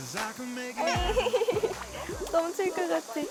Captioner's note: whining